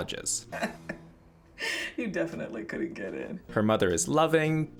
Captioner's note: laughs